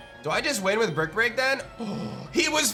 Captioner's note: gasps